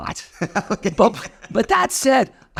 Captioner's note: laughing